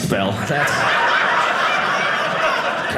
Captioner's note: audience laughing